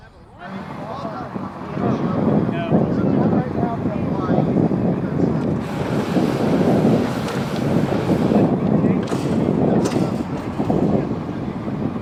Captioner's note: hot air balloon sounds and wind